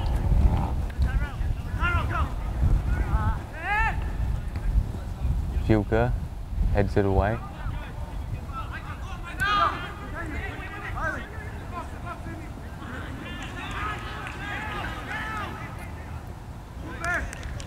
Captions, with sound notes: Juca heads it away. (players talking and yelling)